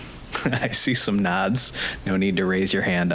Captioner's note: chuckling